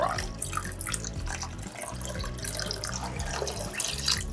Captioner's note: broth sloshes